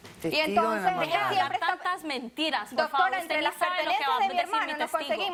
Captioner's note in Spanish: Hablan al unísono